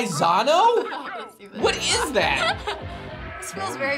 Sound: laughs

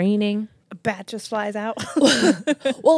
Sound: laugh

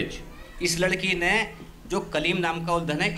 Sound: non-english speech

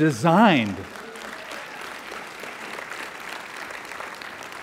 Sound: applause

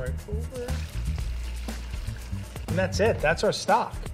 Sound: pouring stock

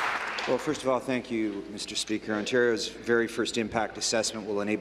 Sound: applause

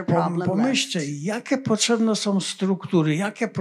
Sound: foreign language

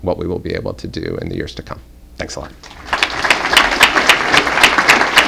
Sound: applause

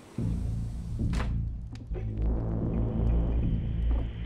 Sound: door thudding; dramatic music

